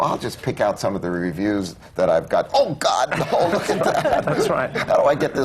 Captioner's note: laughter